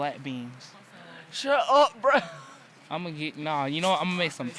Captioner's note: laughs